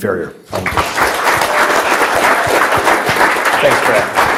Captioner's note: audience applauds